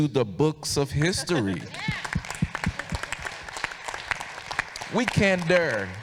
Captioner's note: audience applauding